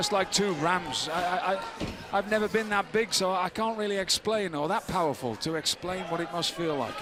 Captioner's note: crowd chatter